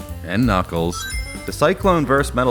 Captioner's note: Sonic Ring Chime